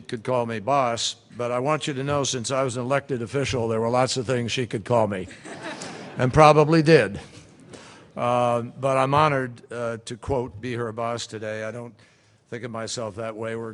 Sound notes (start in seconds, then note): 5.2 laughter